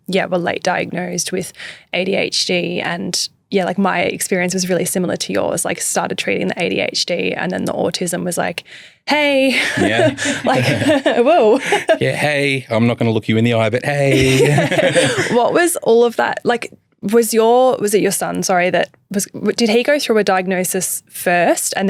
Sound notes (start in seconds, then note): 9.6 laughs; 14.1 all laughing